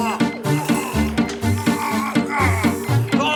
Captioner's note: Benderfax gasps; Mr. Froom groans